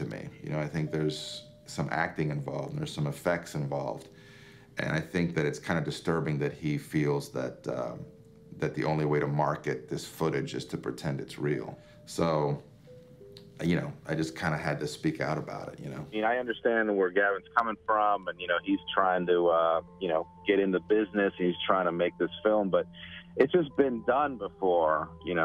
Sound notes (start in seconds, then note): 15.9 Ed on radio